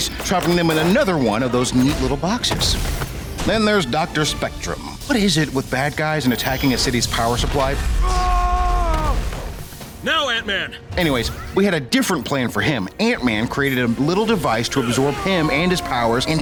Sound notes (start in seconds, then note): 7.9 screaming